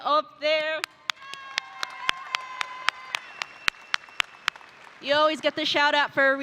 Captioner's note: audience applauding